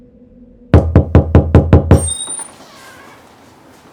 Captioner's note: knock on door